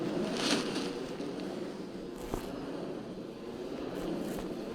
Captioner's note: loud spinning and grating; fabric rips